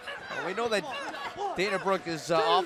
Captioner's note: crowd chatter